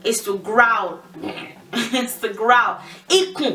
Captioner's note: makes growling sound